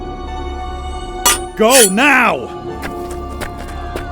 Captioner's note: swords clashing